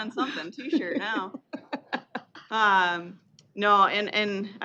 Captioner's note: chuckling